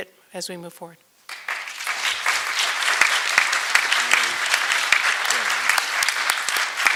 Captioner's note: applause